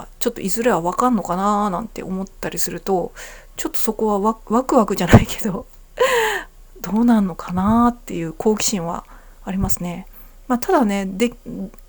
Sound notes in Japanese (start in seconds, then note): 5.1 笑い; 6.0 息をのむ音